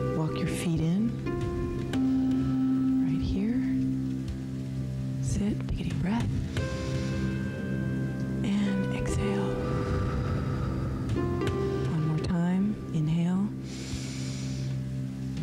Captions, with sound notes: Walk your feet in, right here. Sit, take a deep breath and exhale. (breath hisses) One more time, inhale,